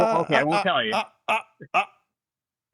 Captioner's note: laughing